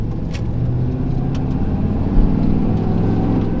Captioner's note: engine Revving